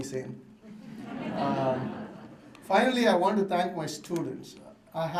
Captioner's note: laughter